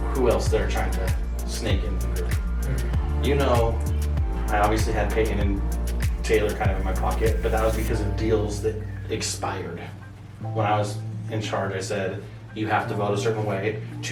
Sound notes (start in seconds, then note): none